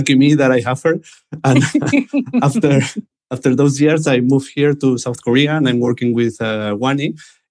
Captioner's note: laughter